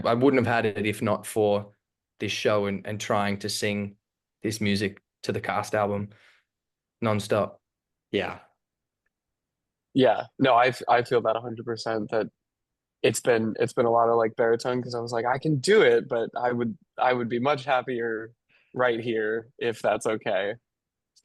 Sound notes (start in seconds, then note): none